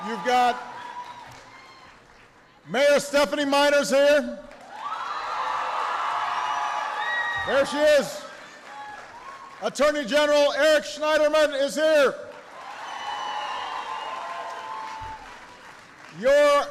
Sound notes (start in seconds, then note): 4.1 applause; 13.1 applause